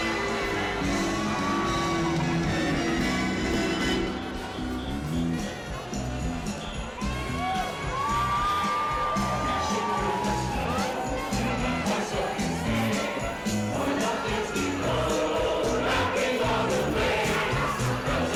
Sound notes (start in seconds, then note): 6.9 audience cheering